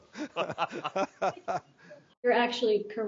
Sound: laughing

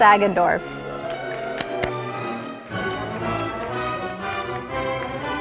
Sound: audience applauding

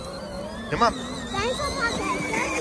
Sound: motor roaring

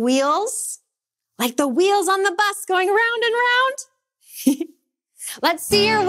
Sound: giggles

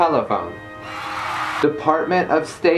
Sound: applause

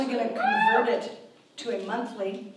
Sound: audience member cheers

